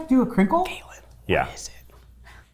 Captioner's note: whispering